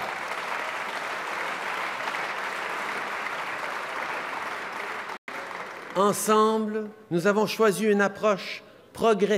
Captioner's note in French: Applaudissements